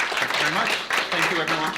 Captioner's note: applause